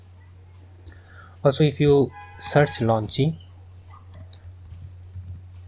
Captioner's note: clicking sound